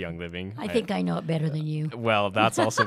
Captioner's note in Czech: Chichotá se